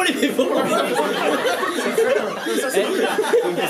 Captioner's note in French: rires généraux